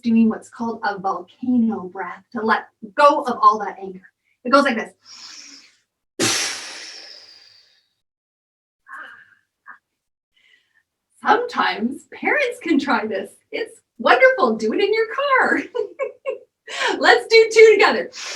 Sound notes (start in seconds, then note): 6.2 deep breathing and puffing out; 15.5 giggling